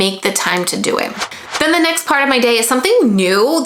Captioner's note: logo whooshing